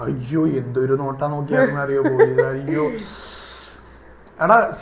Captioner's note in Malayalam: പൊട്ടിച്ചിരി